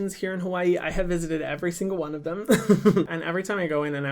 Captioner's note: laughs